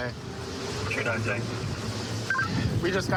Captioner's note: radio communication